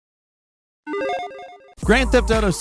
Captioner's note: electronic chiming